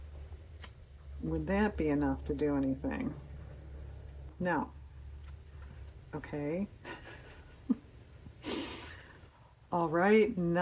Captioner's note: laughs